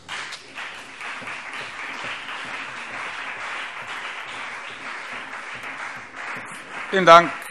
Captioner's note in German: Beifall CDU und BÜNDNIS 90/DIE GRÜNEN